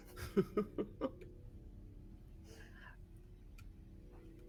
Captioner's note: person laughing